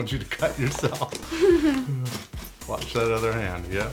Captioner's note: chuckling